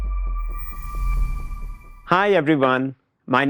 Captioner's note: air whooshes